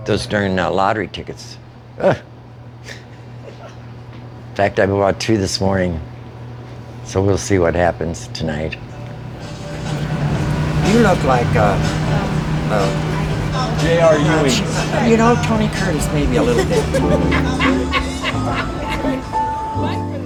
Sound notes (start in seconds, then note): 17.0 laughing